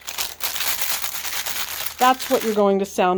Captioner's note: plastic crackles loudly